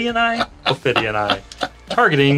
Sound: just chuckling loudly

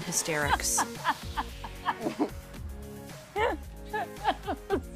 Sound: laughs; chuckles

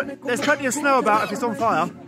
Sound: cough

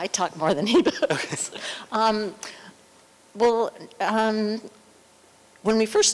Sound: laughter

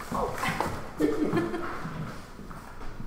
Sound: laughing

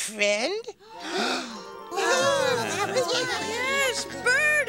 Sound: gasp

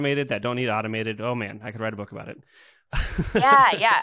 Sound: laughs

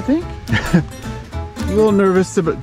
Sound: laughs

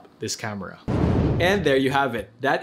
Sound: air whooshing sound effect

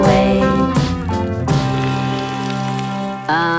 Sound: rain

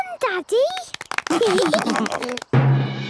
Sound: clapping, laughing

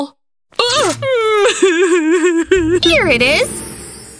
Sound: inconsolable sobs

